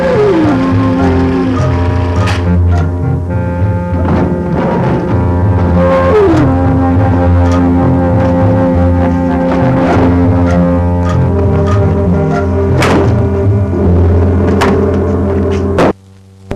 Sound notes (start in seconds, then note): 3.7 thumping; 13.0 tense, mysterious music